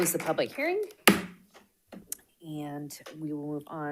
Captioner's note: gavel bangs